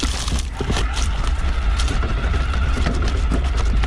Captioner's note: bicycle motor roars